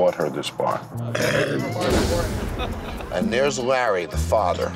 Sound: belches

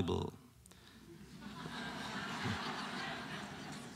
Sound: laughter

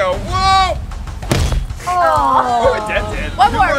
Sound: bangs

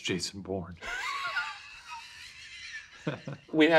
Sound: laughing

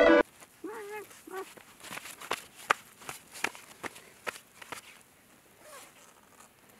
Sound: zipper noise

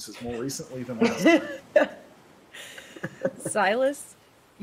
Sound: person laughing

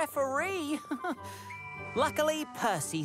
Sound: chuckles

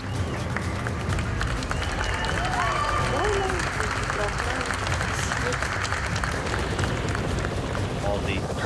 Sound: applause and cheering

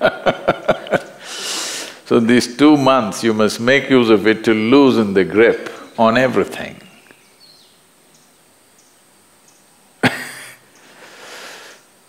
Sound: laughter; laughs

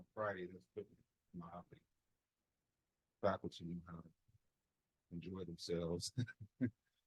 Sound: chuckle

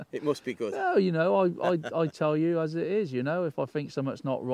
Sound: laughs

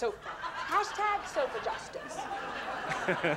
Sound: audience laughter on tv; chuckles

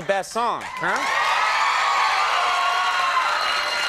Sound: crowd cheers

